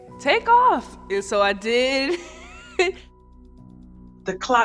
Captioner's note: laughing